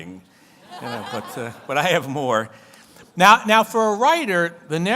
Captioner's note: audience laughs